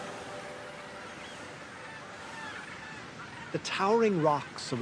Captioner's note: birds calling